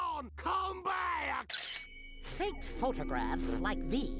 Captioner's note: camera clicks